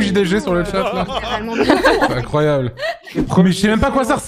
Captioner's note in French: et les filles rient